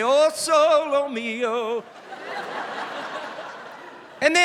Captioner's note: laughter